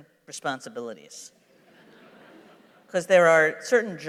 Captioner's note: laughter